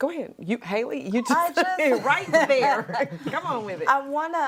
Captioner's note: laughs